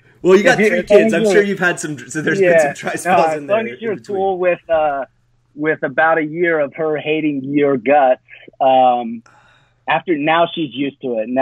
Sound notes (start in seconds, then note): 7.9 sighs